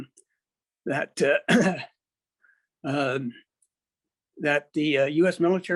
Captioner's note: clears throat